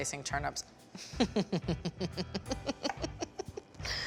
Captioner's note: laughing